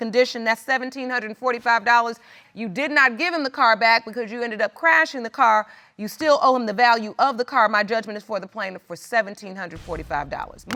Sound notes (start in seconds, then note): none